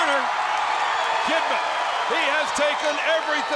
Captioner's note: crowd cheering